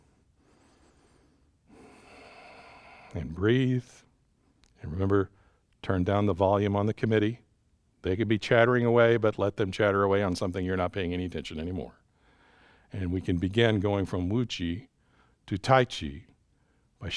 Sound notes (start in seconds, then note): 0.2 exhales; 0.4 inhales